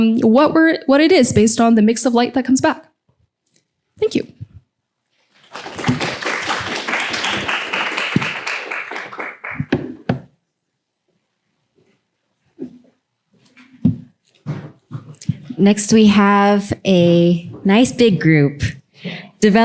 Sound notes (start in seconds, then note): 5.3 applause